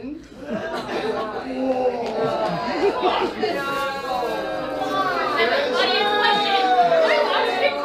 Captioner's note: audience groans